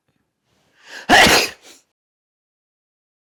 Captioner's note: he sneezes